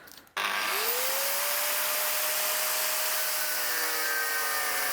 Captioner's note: angle grinder whirring